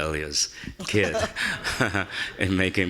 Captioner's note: laughing